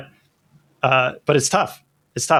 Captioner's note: uh